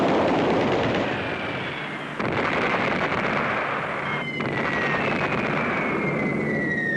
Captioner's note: bomb whistling; bombs blasting